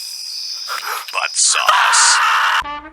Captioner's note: screaming